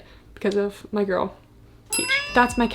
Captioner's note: bell dings; cat meows